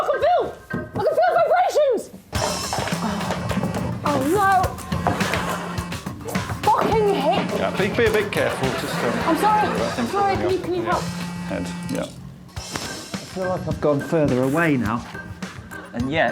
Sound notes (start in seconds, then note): 2.4 sighs; 5.5 phone buzzing